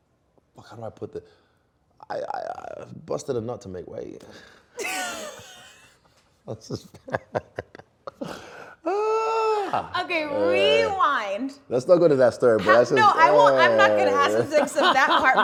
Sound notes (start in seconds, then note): 4.8 both laughing; 12.6 Adesanya laughing